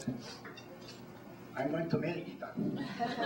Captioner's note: laughter